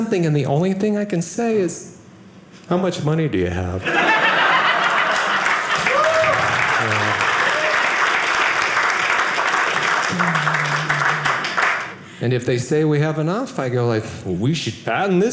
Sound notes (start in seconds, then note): 3.8 audience cheering